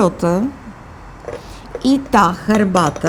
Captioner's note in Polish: brzdęk naczyń